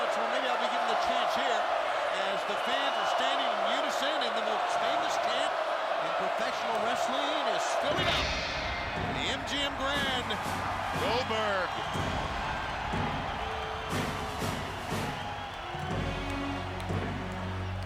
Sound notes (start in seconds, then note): 11.8 crowd cheering; 11.8 upbeat marching music